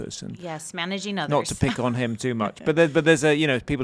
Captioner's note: laughing